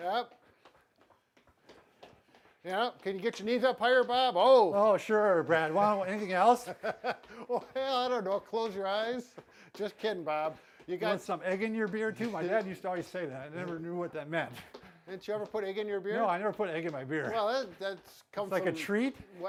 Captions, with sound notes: - Yep. Yep. Can you get your knees up higher, Bob? Oh! - Oh, sure, Brad. Why don't-- anything else? - (laughs) Well, I don't know. Close your eyes? Just kidding, Bob. You got-- - You want some egg in your beer too? My dad used to always say that. I never knew what that meant. - Didn't you ever put egg in your beer? - No, I never put egg in my beer. - Well that, that comes from-- - It's like a treat?